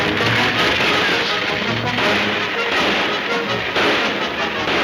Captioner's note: gunshots banging